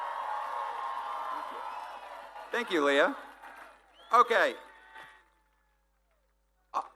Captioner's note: applause